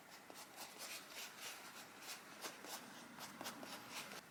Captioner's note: light rubbing sounds as material is stuck down